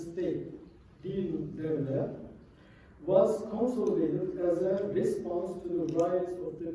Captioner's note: non-english